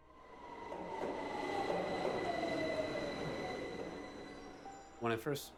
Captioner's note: train approaching